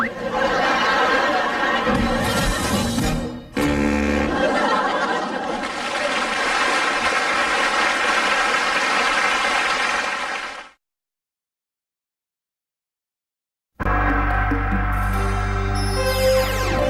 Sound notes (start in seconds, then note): 0.0 audience laughing; 4.2 audience laughs and claps; 10.9 silence; 13.8 analog synth music plays